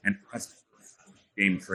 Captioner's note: faintly speaking